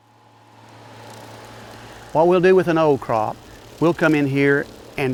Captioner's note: background farm machine sounds